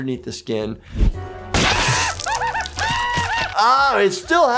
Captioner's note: painful screams